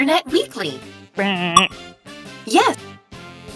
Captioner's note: makes buzzer sound